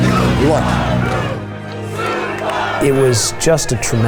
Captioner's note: crowd chanting "Subaru"